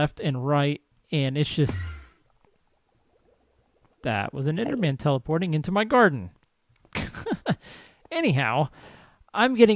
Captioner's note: whoosh; laughs